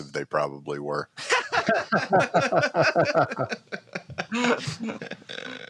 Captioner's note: laughs